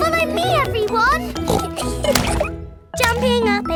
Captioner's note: giggles; snorts; giggling